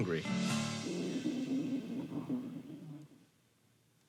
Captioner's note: stomach gurgling